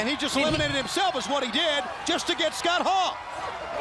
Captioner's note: crowd chatter